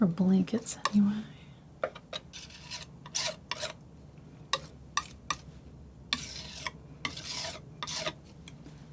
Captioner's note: scratching